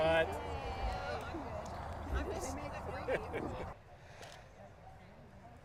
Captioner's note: laugh